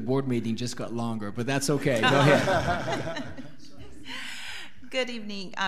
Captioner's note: laughing